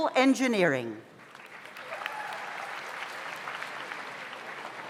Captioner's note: audience applauds